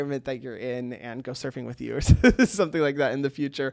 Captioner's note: laughs